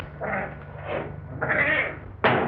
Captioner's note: cat meowing